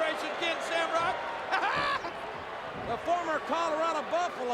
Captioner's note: laughs